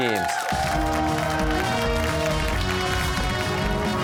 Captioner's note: cheers and applause